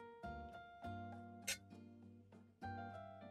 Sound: clinks glasses; romantic piano music

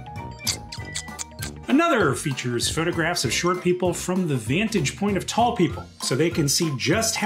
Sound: Brennan making exaggerated kissy noises

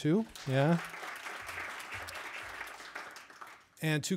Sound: audience applauding

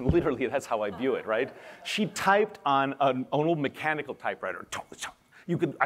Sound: laughter

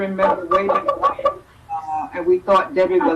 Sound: static interferes

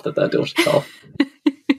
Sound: laughs

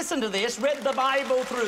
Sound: applause

